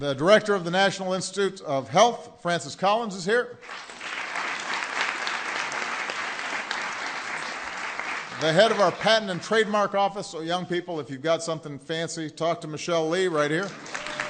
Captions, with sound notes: The Director of the National Institutes of Health, Francis Collins is here. (Applause.) The head of our Patent and Trademark Office -- so, young people, if you’ve got something fancy, talk to Michelle Lee right here.